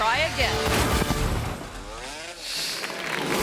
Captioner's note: motorcycle thuds; audience clapping